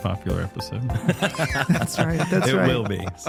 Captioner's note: laughter